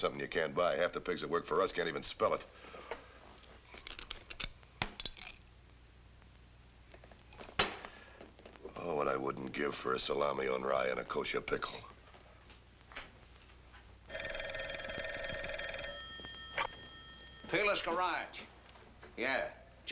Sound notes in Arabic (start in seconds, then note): 14.0 رنين الهاتف; 16.6 يتمتم